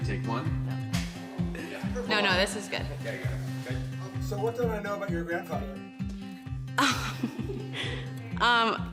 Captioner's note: laughter